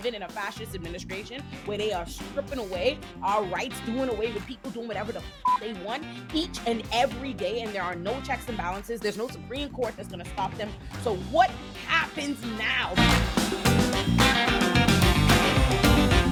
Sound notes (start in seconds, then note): 5.4 beep; 13.4 upbeat music